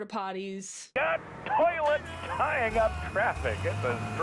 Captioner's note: radio Announcer